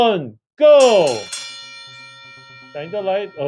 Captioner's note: bell ringing